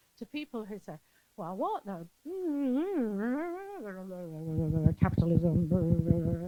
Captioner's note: speaks in gibberish; mic thuds